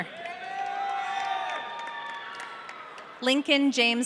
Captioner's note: audience cheering